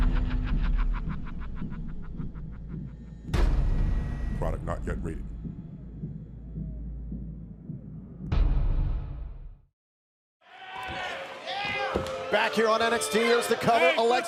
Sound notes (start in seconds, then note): 0.0 evil laughter